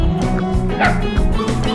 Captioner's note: dog barking